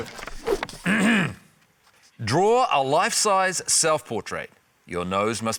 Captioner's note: clears throat